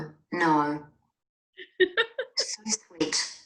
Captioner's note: laughing